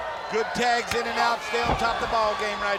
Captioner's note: blows thudding